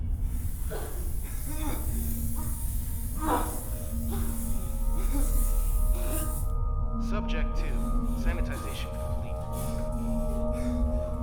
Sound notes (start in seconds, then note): 0.3 spraying; 3.1 coughing